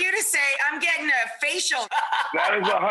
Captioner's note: laughing